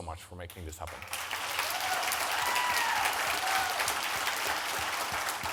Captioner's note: audience applauding